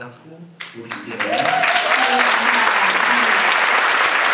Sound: audience applauds

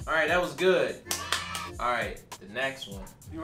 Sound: clapping

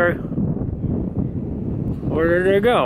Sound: wind blowing

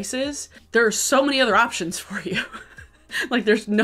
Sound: laughs

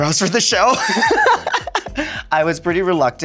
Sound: Sasha laughing

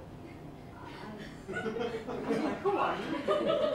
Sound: laughter

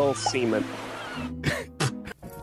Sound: spits

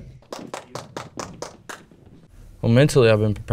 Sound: clapping

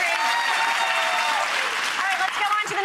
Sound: audience applauding and cheering

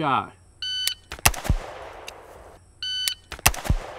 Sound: rifle fires; timer beeps; rifling fires

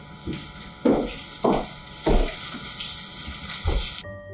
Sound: footsteps

